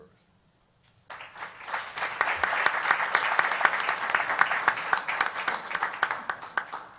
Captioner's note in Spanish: Aplausos